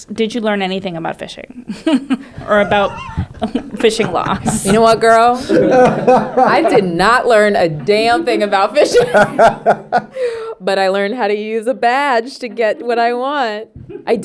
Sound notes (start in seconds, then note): 4.1 actors laughing; 8.7 laughing